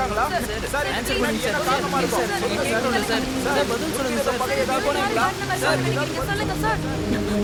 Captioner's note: indistinct chatters